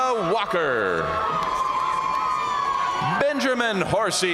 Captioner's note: audience cheering and applauding